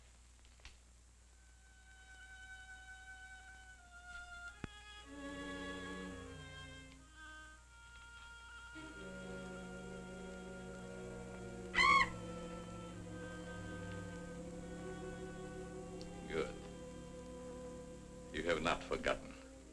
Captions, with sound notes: (eerie music) (bat shrieks) - Good, you have not forgotten.